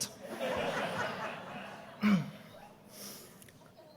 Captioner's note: audience laughing